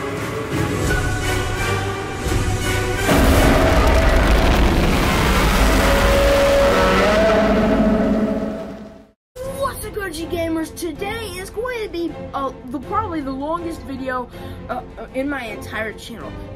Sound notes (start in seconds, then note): 3.1 Minus One Godzilla Roars